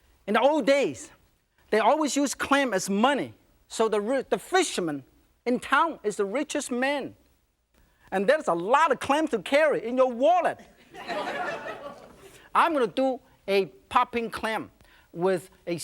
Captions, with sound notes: In the old days, they always use clam as money, so the fishermen in town is the richest man and there's a lot of clams to carry in your wallet. (laughter) I'm going to do a popping clam with a